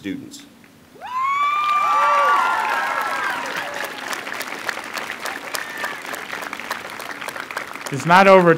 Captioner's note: applause